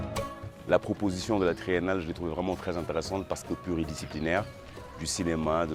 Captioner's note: speaking foreign language